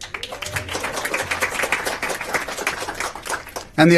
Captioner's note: applause and cheers